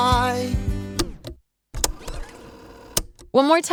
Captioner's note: tape rewinding